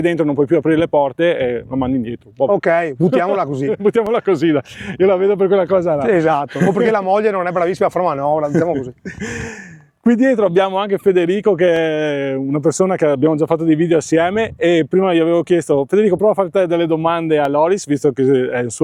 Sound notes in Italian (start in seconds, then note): 8.4 risate; 9.4 suono gutturale